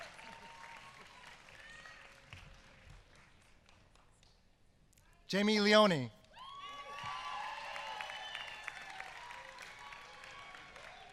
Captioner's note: applause